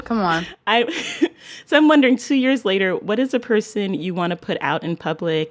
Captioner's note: laughter